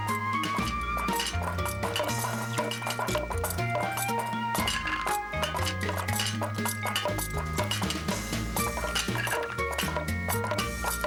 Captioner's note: dishes rattling